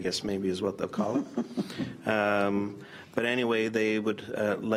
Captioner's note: laughs